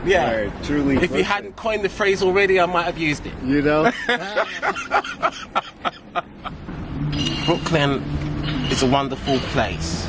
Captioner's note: laugh